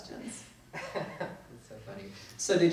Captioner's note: laughs